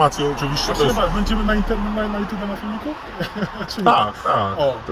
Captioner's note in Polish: śmiech